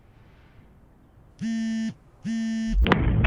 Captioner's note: phone buzzing